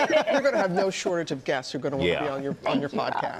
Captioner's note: laughter